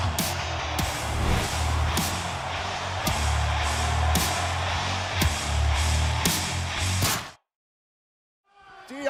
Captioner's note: crowd cheering